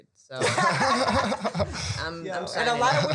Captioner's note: panel laughing